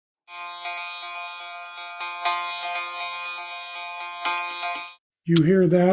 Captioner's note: boiler alarm